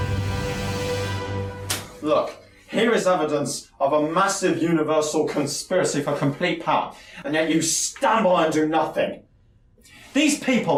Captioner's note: slamming down list